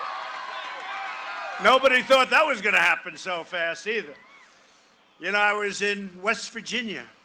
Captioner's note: cheering and applause